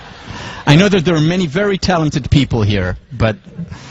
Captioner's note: laugh